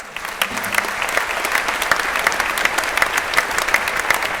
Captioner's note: crowd applauding